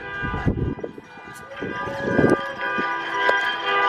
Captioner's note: cars honk